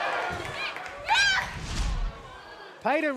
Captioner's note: Royce shouts